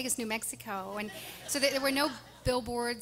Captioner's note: audience laughing